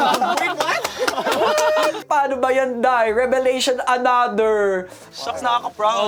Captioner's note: bong